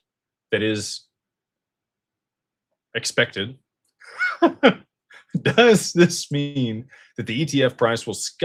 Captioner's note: laughter